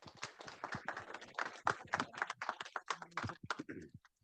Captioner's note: audience applauding